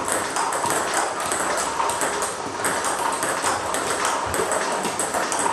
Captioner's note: ball ping pong hitting continues